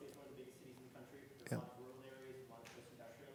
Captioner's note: voice muffled